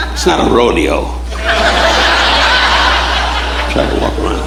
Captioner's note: audience laughing